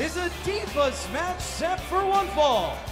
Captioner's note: bell ringing